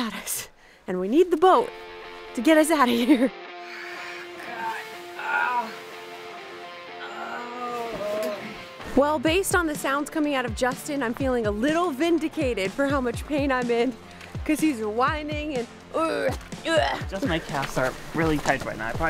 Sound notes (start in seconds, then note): 5.0 groans